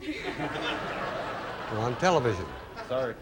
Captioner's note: audience laughing